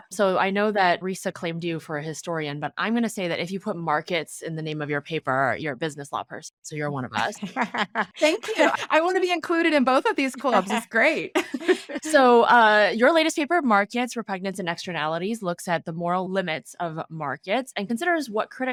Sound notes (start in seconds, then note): 7.2 laughing; 11.4 laughing